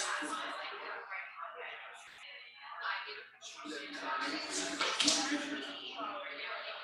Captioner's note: people chattering indistinctly continues